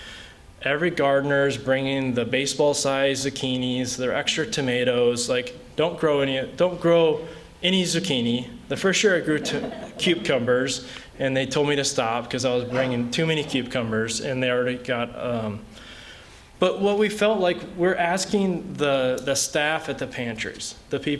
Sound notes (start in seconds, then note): 9.4 laughter